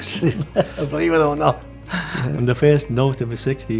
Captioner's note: laughing